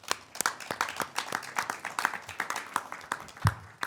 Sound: claps

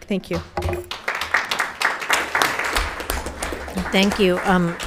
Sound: audience applauding

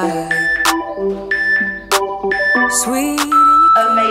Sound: workout timer beeping

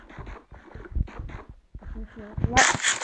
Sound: Minecraft sounds

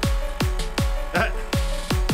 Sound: chuckles

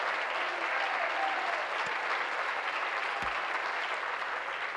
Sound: applause

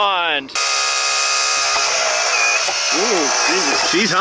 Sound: machine roaring

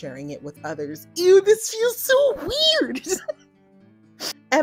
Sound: laughs

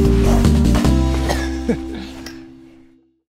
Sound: chuckles

